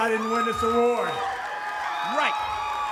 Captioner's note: audience applauds and cheers